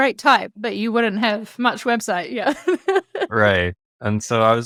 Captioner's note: laughs